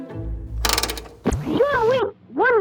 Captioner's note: bright exciting music; knob clicking